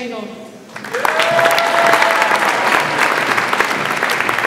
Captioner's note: audience applauds